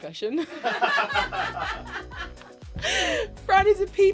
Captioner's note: producers laugh